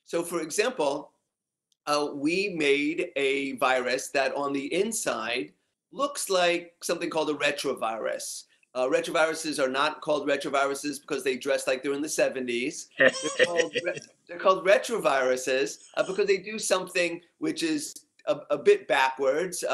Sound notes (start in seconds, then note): 13.0 laugh